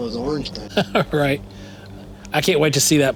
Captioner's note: laughs